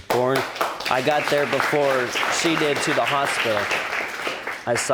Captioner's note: audience applauding